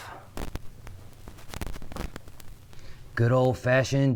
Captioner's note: mic rustling